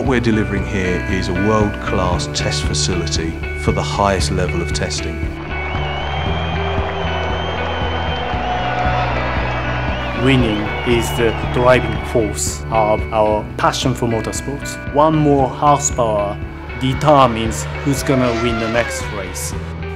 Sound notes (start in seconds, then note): 5.3 crowd cheering